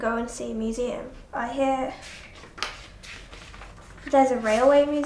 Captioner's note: turning pages